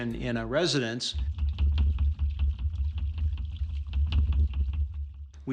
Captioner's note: water hammer thumping